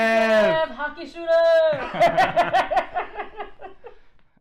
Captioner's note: laughs